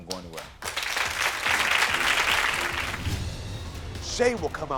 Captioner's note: audience clapping